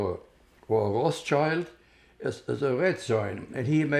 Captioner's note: german